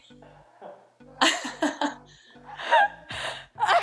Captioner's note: laughter